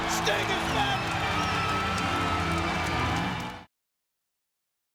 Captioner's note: crowd cheering